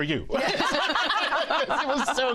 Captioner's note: laughter